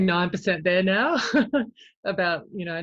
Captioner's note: chuckles